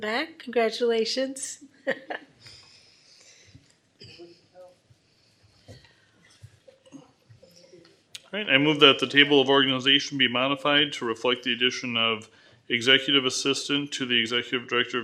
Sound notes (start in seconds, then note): 1.8 laughter